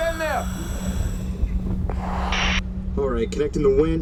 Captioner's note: static